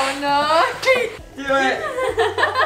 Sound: laughing

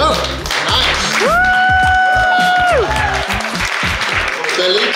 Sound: clapping, yelling

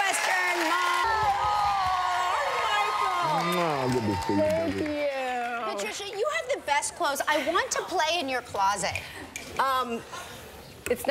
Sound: cheers and applause

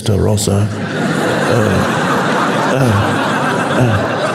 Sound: audience laughs

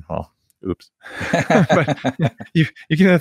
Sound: laughing

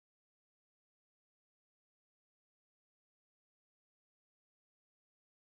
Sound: none

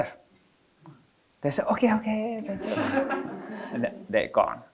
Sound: audience laughing

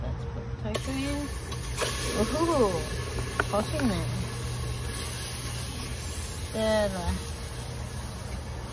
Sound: tofu sizzles loudly

